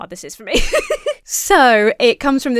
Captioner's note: laughs